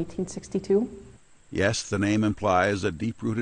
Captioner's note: voiceover